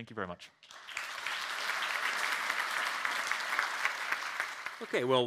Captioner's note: crowd applauds